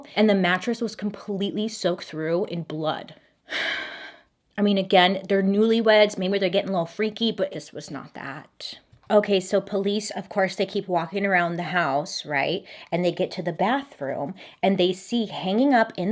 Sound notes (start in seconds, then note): 3.5 sighing